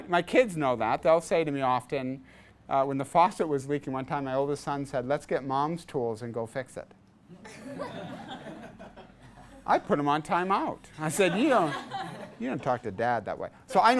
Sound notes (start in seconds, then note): 7.4 class laughs